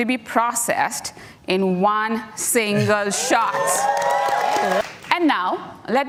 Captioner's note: audience cheering